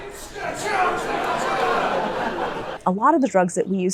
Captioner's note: audience laughing